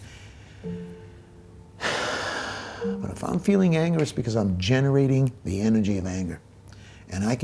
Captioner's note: deep breath